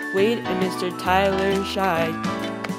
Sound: footsteps

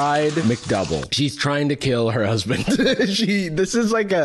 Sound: laughs

